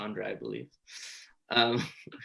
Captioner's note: chuckles